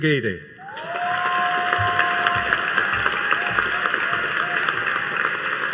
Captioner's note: audience cheering and applauding